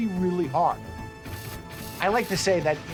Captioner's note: machine moving